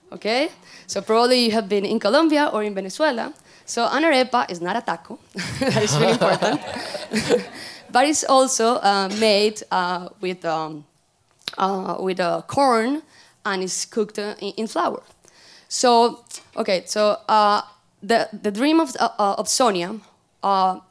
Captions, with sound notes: Okay, you probably, you have been in Colombia or Venezuela. So an arepa is not a taco, (laughter) that's really important, but it's also made with corn and is cooked in flour. So okay, the dream of Sonia, she always had a dream